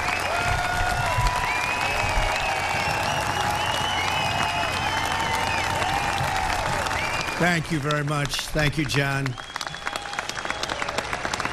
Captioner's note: applause